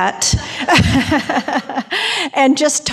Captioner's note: laughing